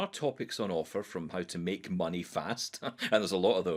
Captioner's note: laughs